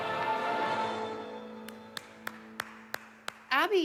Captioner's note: applause